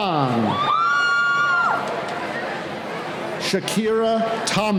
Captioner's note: cheering